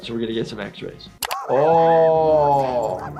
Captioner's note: Handy screaming